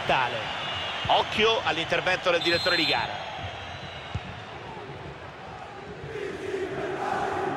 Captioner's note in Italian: Applauso